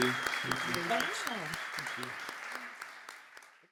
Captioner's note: audience clapping